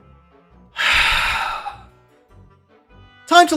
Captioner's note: defeated Sigh